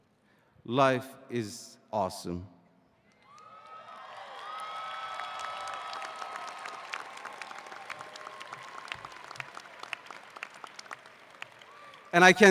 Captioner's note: applause